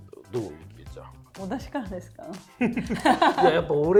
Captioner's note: laughs